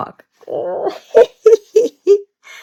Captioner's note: laughs